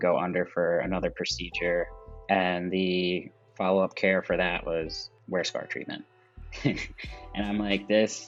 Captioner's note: laughs